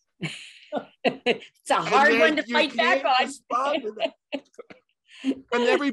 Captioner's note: laughs